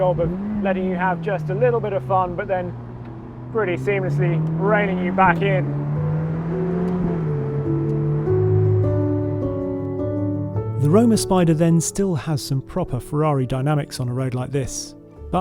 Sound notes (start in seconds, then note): 5.9 car engine revving; 5.9 classical music